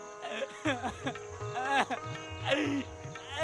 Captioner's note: sobbing, crying